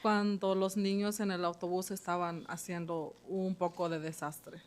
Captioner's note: speaking Spanish